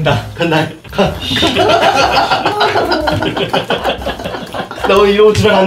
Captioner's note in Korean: 웃음소리